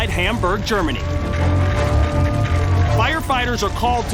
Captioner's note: siren wails